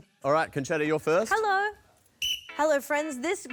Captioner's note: blows whistle